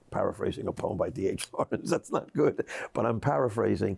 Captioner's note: laughs